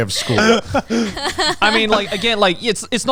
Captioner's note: laughing